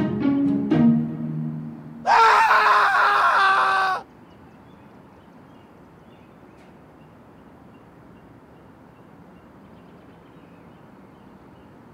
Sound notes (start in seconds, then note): 2.0 screaming; 5.9 birds chirping